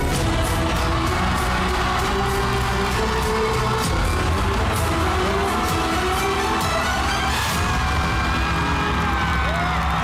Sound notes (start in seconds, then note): 0.0 crowd cheering, applauding